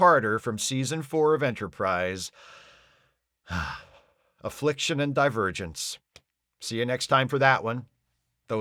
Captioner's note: sigh